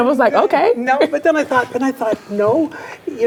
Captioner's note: chuckles